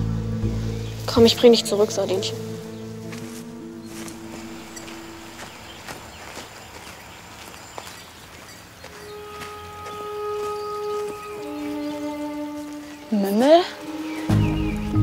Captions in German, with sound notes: Komm, ich bring dich zurück, Sardinchen. (Vogelzwitschern) (Angespannte Musik) Mümmel?